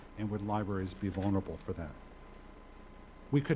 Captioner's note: none